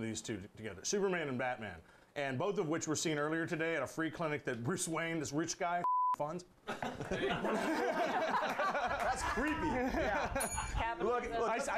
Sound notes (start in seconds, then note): 6.6 laughter; 10.4 bell rings